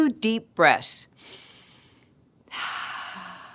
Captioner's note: exhale; inhale